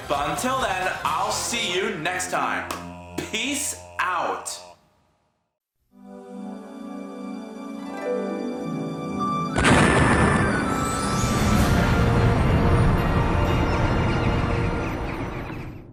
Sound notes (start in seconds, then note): 9.5 sudden explosion!